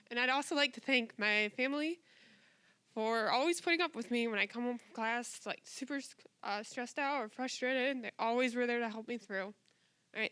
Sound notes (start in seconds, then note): 7.9 voice wavering